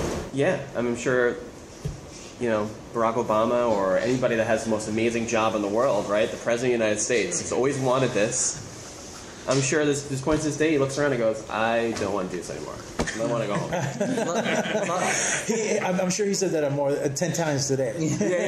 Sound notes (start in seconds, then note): 13.5 laughter